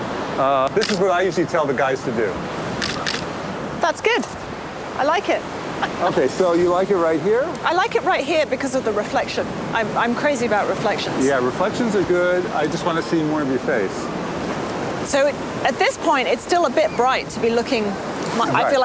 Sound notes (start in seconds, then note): 2.8 camera shutters; 5.5 laughs